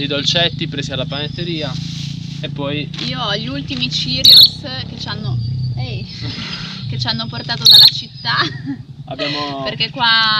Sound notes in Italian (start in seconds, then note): 4.0 cinguettio di uccelli